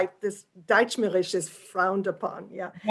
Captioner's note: german